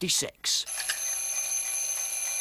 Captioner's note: ringing